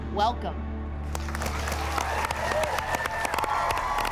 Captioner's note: cheering